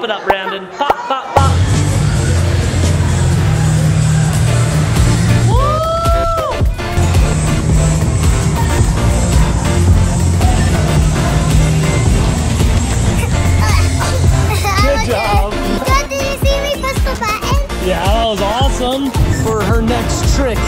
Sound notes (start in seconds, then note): 1.5 edm music; 5.4 cheering; 6.1 edm music